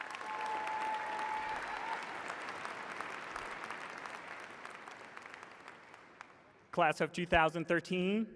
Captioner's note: cheers and applause